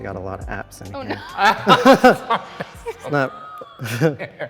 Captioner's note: both laugh